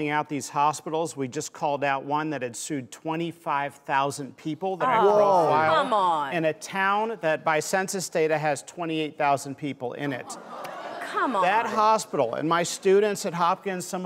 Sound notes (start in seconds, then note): 10.2 audience groans